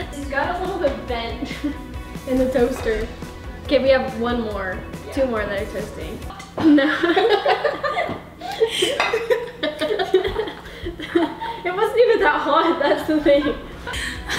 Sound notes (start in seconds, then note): 8.4 laughing